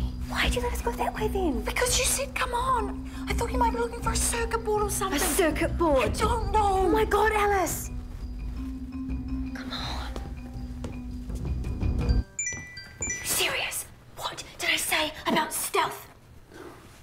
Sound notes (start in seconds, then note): 9.6 whispers; 10.6 music intensifies; 13.0 text alert